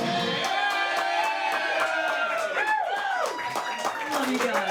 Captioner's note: crowd applauding